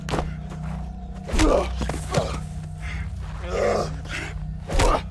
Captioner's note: both moaning